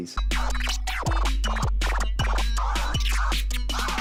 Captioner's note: record scratching